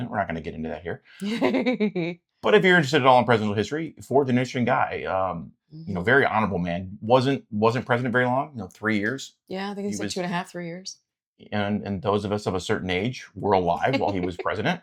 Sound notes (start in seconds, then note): 1.2 laughing